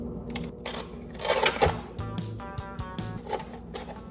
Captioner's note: box scrapes